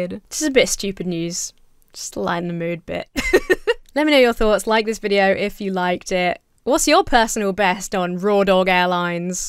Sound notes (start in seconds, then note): 3.1 laughs